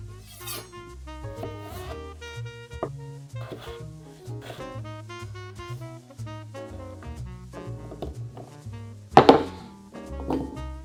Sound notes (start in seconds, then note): 1.3 knife slicing